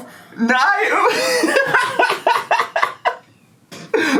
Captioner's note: laughs